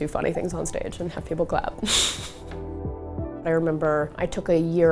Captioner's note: laughs